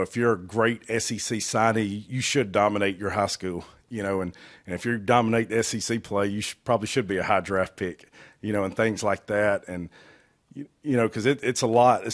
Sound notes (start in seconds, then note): none